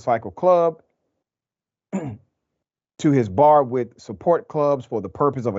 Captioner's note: cough